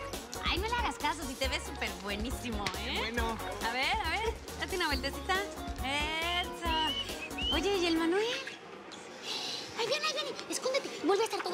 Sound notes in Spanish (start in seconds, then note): 6.7 Silbidos